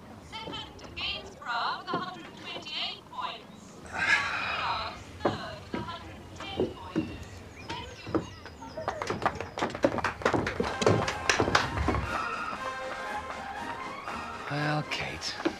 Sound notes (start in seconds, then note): 8.5 crowd applauding; 10.5 upbeat music